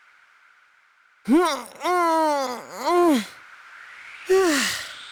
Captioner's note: silence; stretch grunt